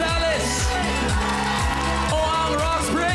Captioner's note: applause, cheering